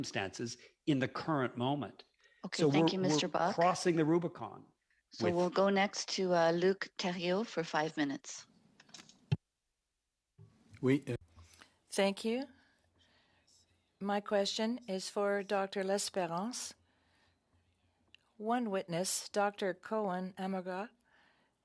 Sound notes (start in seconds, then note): 15.5 speaking French